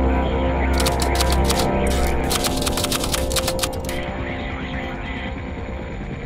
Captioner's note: brooding music; typewriter clicking